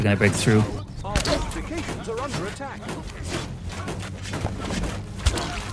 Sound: gunshots

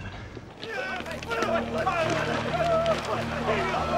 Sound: non-english speech

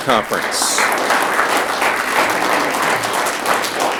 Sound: audience clapping

